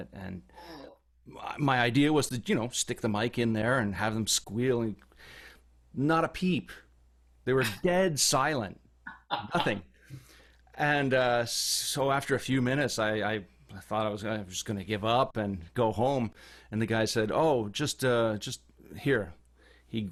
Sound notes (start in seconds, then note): 9.1 laughs